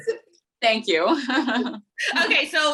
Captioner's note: both laughing